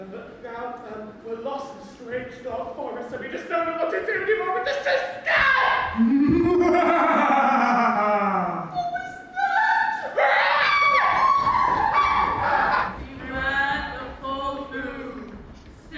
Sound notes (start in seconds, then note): 5.3 screams; 6.0 evil laugh echoes through Deb Hall; 11.8 scream as they run off stage